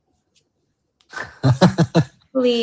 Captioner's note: laughter